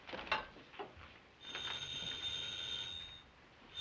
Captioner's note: phone rings